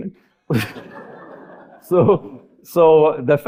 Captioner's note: audience laughing